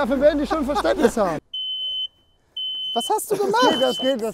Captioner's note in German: Elektronisches Piepen